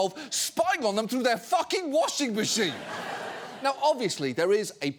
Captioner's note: audience laughing